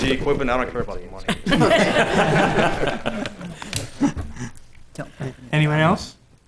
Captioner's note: laughing